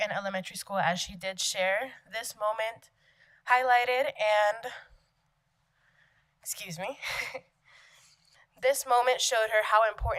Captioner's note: giggle